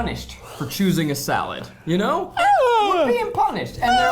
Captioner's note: humming